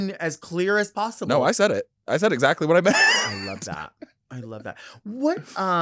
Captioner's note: laughing